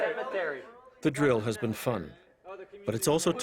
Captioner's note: voiceover